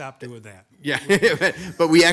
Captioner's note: chuckles